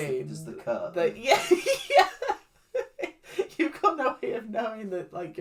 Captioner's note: laughs